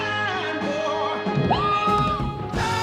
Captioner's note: screams